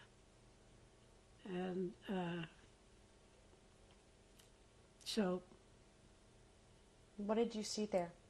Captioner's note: pauses for 3 seconds